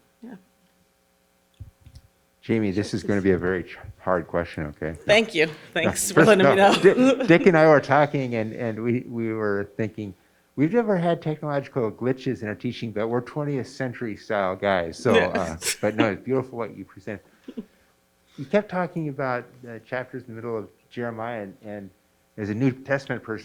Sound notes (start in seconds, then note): 5.0 laughing